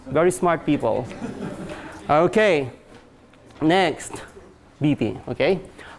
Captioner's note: class laughs